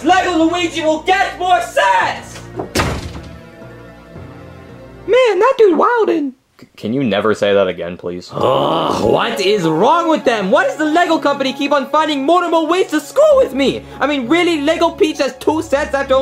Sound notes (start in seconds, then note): 2.3 door slams; 8.3 groaning